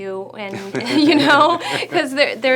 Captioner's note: laughing